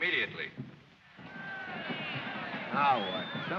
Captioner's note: disgruntled chatter